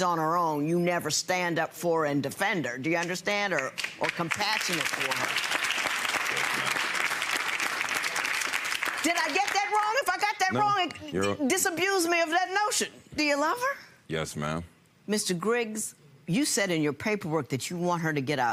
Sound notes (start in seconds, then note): 3.8 audience applauds